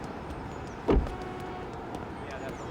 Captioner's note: door closes